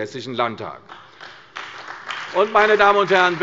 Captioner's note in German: Beifall bei der CDU und dem BÜNDNIS 90/DIE GRÜNEN